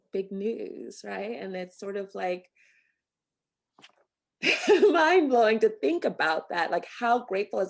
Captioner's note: laughter